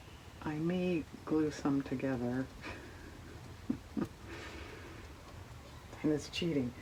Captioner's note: laughs